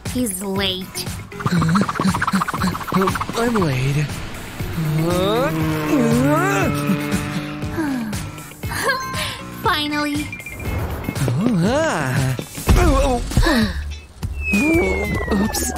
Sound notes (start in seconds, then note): 7.0 puffs